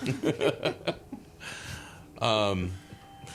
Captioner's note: laughing